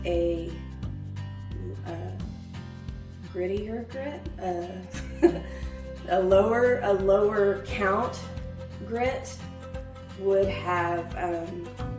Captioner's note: laugh